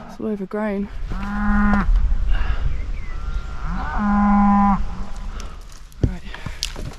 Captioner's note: moo!; moo